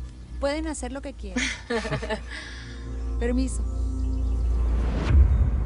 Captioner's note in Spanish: Risas